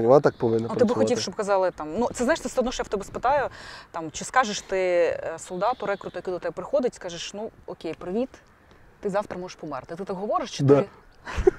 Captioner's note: laughter